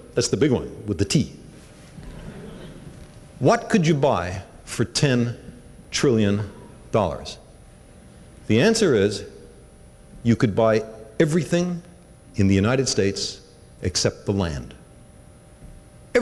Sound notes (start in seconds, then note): 2.0 laughter